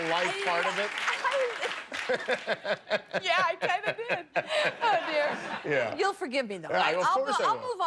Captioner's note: laughter